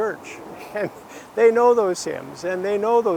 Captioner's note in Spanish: la risa